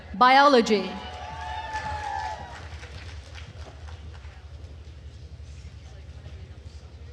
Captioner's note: attendees cheering and applauding